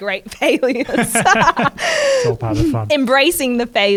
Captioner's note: both laugh